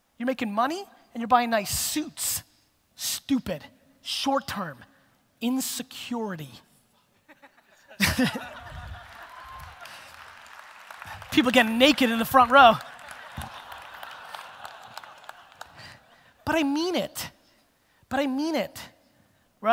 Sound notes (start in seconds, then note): 7.2 laughs; 8.3 audience applause